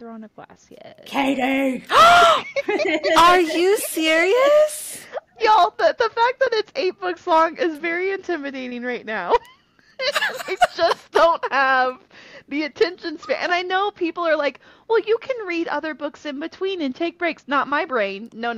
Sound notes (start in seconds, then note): 1.9 gasp; 2.0 laughter